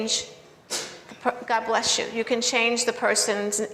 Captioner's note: student sneezes